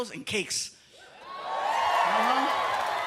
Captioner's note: cheering